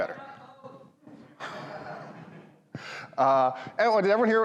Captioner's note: audience laughs